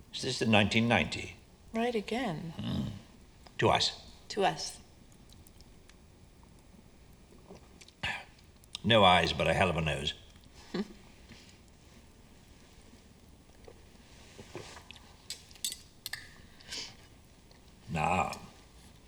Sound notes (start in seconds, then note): 10.7 Jane chuckles; 15.3 cutlery clanking